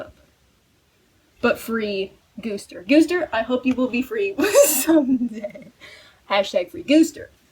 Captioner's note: wheezing